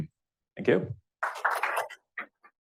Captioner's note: applause